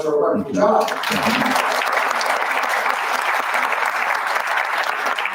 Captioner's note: round of applause